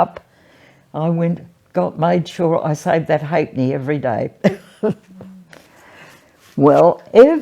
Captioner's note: laughs